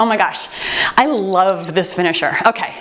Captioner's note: timer beeps